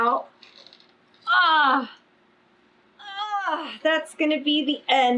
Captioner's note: grunts